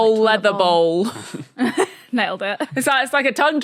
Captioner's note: snickers